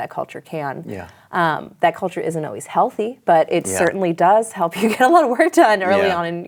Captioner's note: laughs